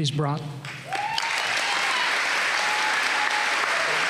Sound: applause

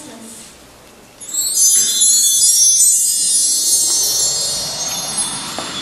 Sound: chimes

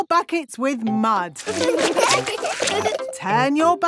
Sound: laughing

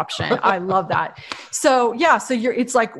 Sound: laughing

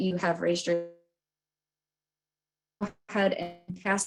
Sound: audio cuts out

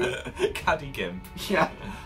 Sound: laughs

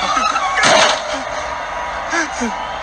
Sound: cars Crash; gasps

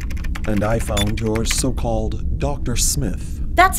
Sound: sound of typing

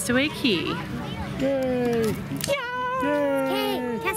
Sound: cheering

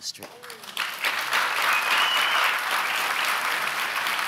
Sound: audience applauds

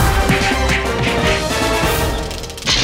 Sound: heroic music playing; blows landing

